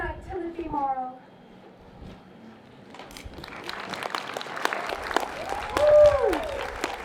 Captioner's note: applause